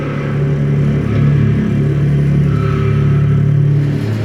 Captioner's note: deep, resonant hum